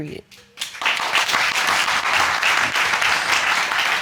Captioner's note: audience applauding